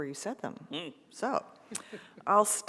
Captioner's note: laughs